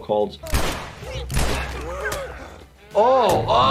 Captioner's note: gun shots